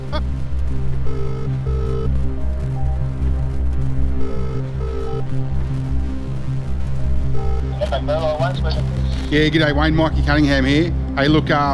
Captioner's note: phone Ringing